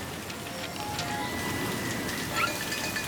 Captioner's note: wind whistling; rattle!